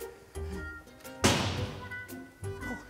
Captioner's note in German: Tür knallt